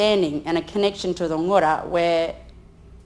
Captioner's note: speaks in foreign language